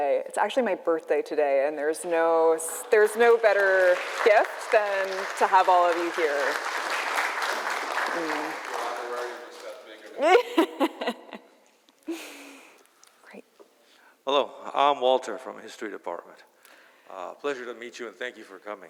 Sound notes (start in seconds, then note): 6.0 applause; 10.2 laughter